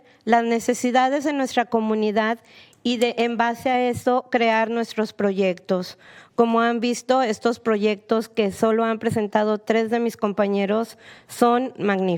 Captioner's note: speak spanish; speaking spanish